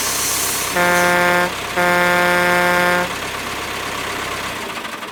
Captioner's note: truck horn honking